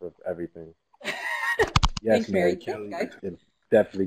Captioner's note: laugh